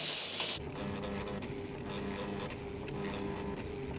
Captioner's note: fax humming